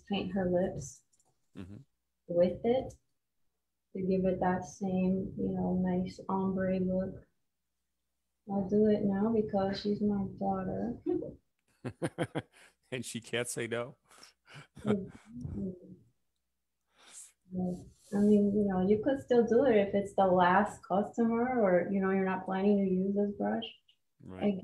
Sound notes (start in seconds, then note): 11.8 chuckles